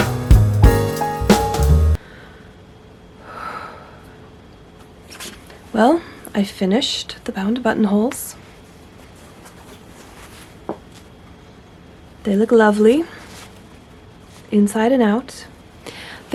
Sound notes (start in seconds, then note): 3.2 deep, steadying breath